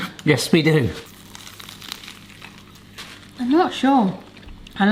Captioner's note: crunchy biting